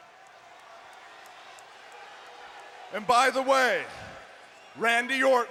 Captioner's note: applause